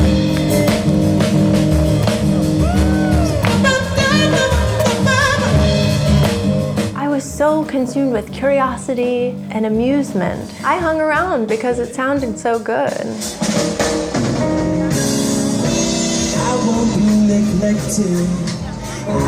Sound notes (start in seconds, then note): 0.3 smooth rhythmic music; 3.8 vocalizing; 13.8 smooth jazz music